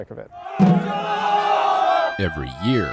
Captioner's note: shouting